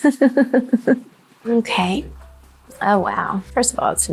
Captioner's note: person laughing